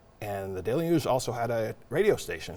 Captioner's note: none